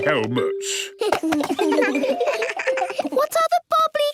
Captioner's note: giggles